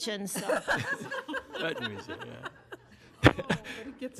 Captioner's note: group laughing